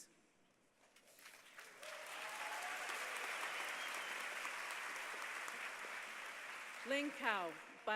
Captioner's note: applause